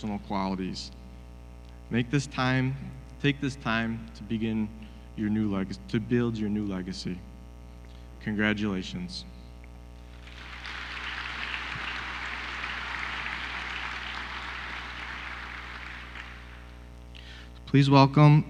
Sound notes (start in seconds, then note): 8.5 applause